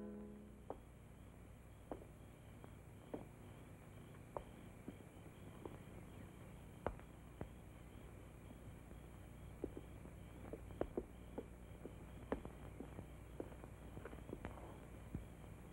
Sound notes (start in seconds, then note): 1.9 Obam's pacing footsteps; 9.6 Obam's pacing footsteps